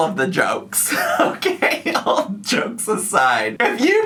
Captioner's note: laughs